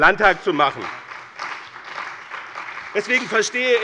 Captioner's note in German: Beifall bei dem BÜNDNIS 90/DIE GRÜNEN und der CDU